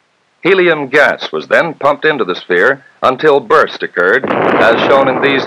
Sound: sound of Explosion

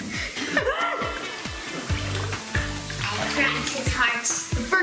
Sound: laughter

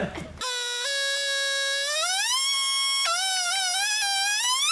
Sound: press buzzes

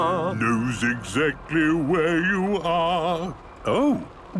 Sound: mimicking tune

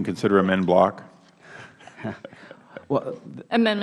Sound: laughter

